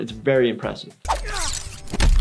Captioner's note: metal crunching; metal slashing